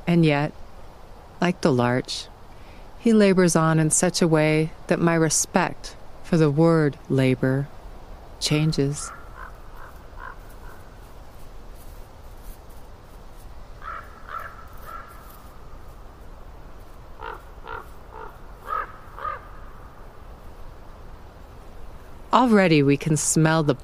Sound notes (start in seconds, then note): 9.0 gentle footfalls through grass, caw-caw of ravens